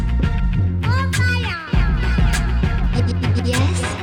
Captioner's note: child babbling